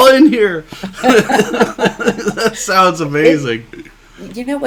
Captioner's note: laughing